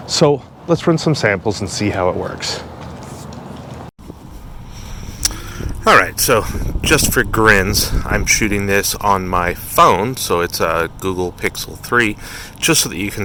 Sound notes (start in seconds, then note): 4.1 wind blowing